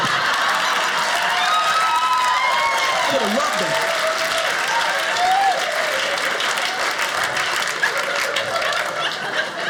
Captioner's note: audience applauding